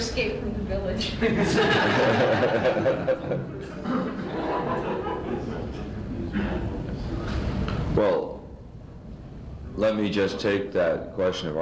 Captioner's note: much laughter